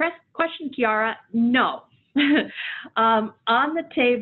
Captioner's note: chuckling